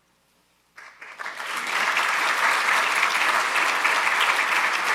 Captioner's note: audience applauding